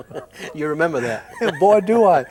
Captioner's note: both chuckle